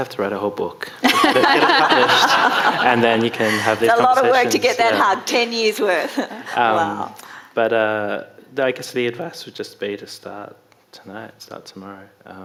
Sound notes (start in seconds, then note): 1.1 audience laughing